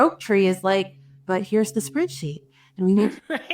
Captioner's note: chuckling